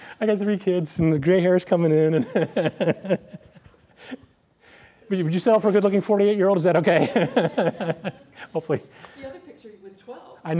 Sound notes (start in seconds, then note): 2.3 laughs